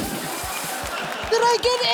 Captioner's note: laughter